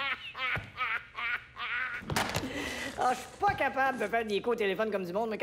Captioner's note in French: Il est mort de rire